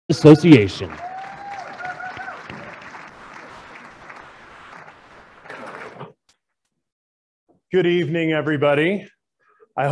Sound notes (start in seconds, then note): 1.6 applauding